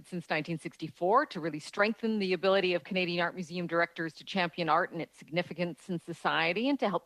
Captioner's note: speaking French